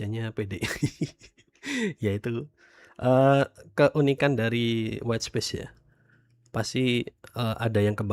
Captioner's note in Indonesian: tertawa